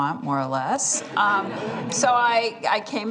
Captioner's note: laughter